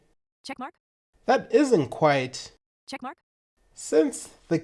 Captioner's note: Siri's Voice